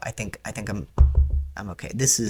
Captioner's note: knocks